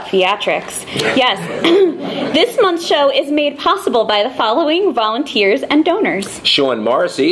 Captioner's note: laughing